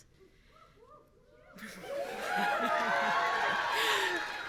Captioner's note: audience cheering